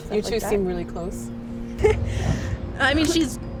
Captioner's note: laughing